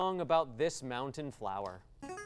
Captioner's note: ding